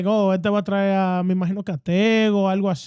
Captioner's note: speaking In Foreign Language